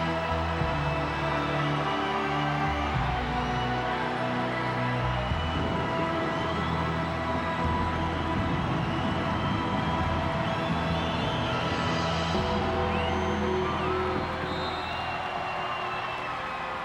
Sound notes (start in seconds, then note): 7.3 crowd cheering; 7.3 dramatic music continues